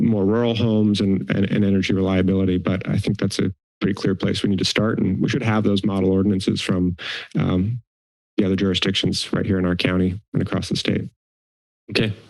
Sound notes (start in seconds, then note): 6.9 inhales